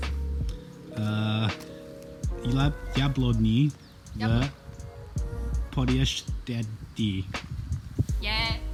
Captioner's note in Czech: anglický přízvuk